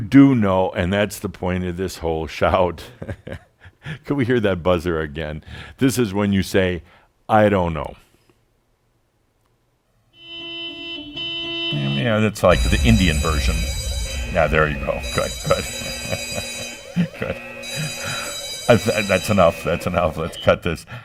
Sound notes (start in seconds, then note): 3.0 Adamus chuckles; 12.9 now buzzers and sirens; 16.1 Adamus chuckles